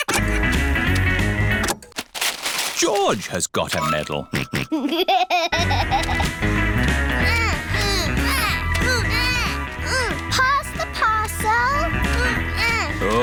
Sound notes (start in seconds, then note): 4.2 snorts and laughs; 7.2 both grunting